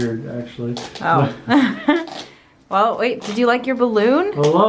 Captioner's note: giggles